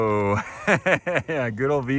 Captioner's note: laughs